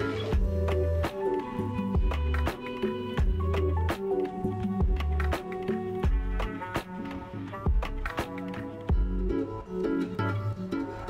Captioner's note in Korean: 박수 갈채